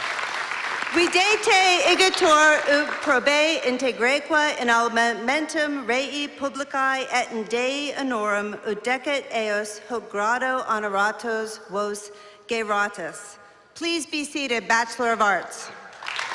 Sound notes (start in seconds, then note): 4.7 non-english speech